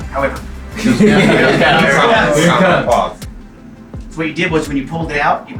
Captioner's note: boisterous laughter